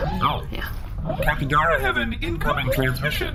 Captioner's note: incoming transmission beeps